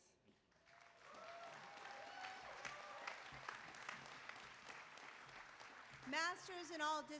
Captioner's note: applause